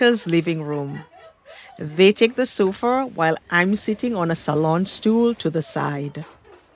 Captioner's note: group laughter